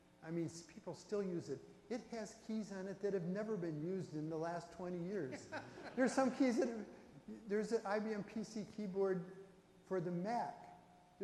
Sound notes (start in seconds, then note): 5.3 audience laughs